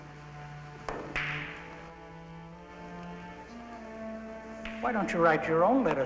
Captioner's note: billiard balls clatter